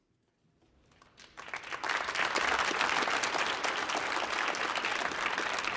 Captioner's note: audience applauding